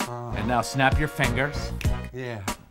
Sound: they snap their fingers

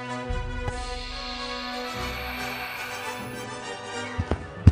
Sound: The Crystal whispers in an unintelligible dialect

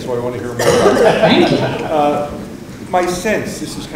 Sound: audience laughing

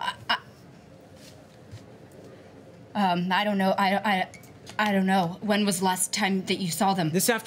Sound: stammers

